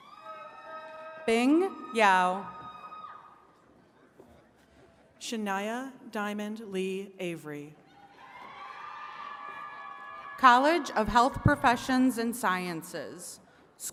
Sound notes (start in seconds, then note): 0.0 attendees cheering; 8.1 attendees cheering and clapping